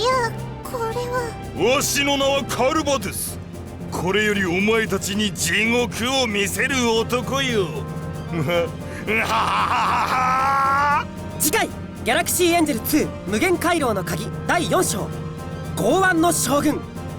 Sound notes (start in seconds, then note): 9.0 laugh